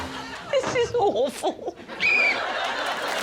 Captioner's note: laughs; whistle blows